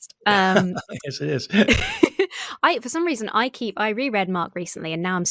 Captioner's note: laughing